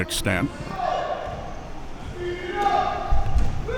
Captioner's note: spectators shouting